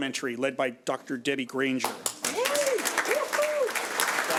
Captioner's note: audience applauds